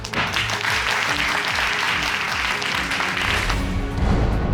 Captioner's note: audience applauding